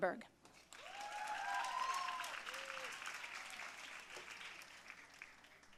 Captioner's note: audience cheering and applauding